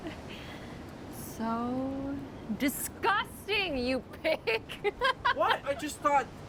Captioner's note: laughs